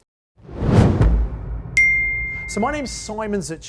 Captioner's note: logo whooshing